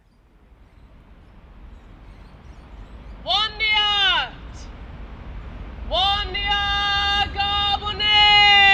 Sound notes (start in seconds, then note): 3.4 calling in the ancestors in Woi Wurrung traditional language